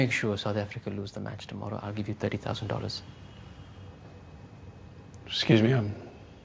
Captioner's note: none